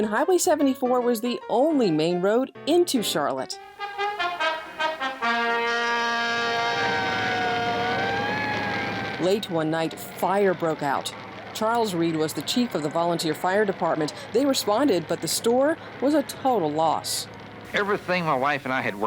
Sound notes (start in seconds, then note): 3.6 upbeat trumpet music; 7.1 sirens ringing